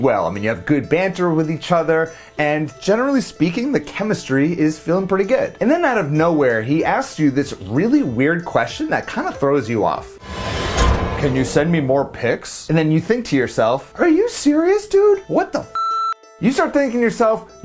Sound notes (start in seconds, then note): 10.2 computer whooshing; 10.2 metal thudding; 15.8 beep